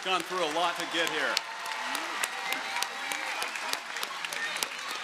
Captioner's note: crowd applauding